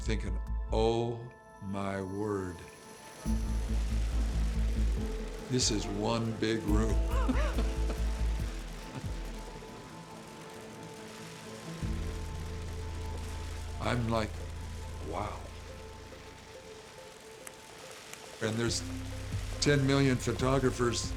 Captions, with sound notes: and I'm thinking, "Oh, my word. (cameras clicking) This is one big room." (laughs) I'm like, "Wow." And there's ten million photographers